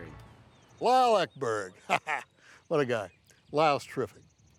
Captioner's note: laughs